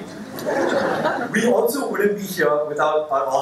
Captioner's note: laughter